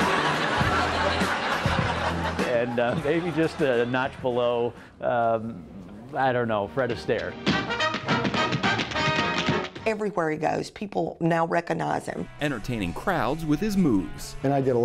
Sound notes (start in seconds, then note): 0.0 audience laughs; 7.4 tap shoes click